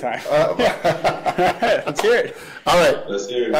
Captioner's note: laughs